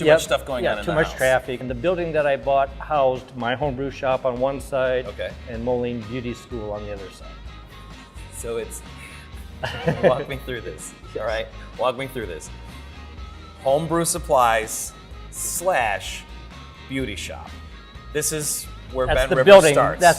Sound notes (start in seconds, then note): 9.6 laugh